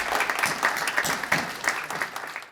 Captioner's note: audience applauding